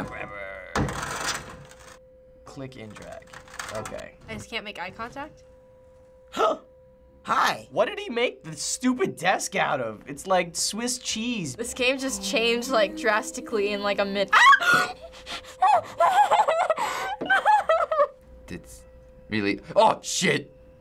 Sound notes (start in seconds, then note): 0.0 groans; 0.2 mutters; 0.8 in game: clattering; 6.2 gasps; 14.4 gasping